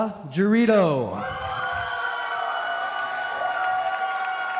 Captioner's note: applause